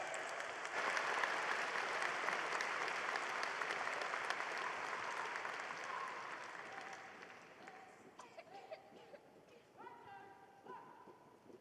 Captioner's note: applause